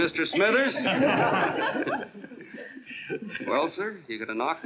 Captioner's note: laughing